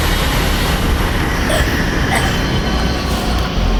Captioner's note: choking